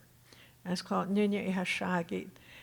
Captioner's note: speaking Tohono O'odham